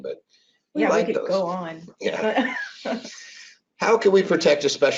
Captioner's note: laughs